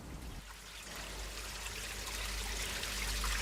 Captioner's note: water running